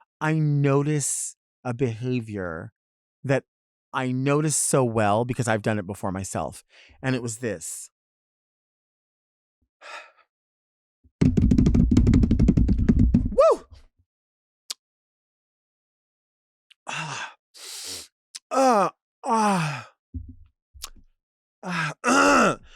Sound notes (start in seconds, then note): 9.9 person exhaling; 11.2 hands drumming; 13.4 person exclaiming; 17.6 person breathing deeply; 18.6 person exclaiming